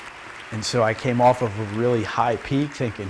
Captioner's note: cheering and applause